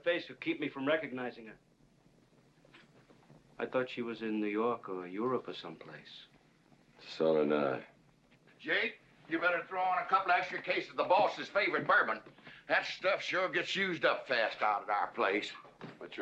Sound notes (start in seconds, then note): none